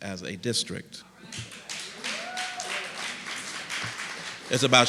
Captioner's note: applause and cheering